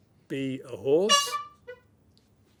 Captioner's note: honk